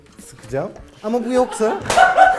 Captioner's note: laughs